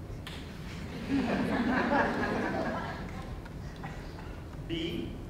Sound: audience laughing

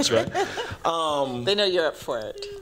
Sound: laughter

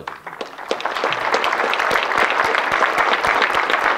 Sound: audience clapping

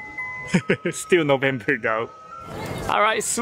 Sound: chuckles

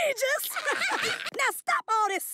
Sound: laughing

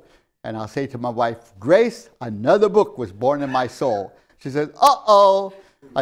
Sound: laughs

